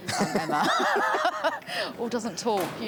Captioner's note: laughing